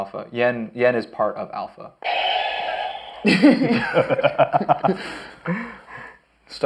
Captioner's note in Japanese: 全員爆笑